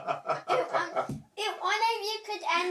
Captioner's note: kids talking